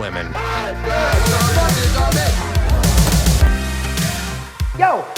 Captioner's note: intelligible shouting, cheering; intense music